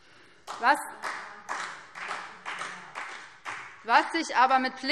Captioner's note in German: Beifall BÜNDNIS 90/DIE GRÜNEN - Zurufe SPD